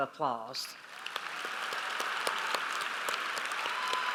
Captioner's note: audience applauds